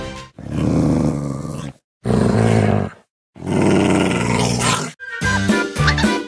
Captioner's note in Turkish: Hırlama Sesi